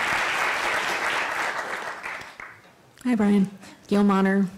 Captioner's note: applause